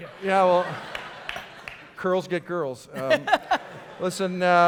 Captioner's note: audience laughter